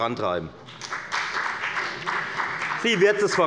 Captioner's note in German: Beifall bei der FDP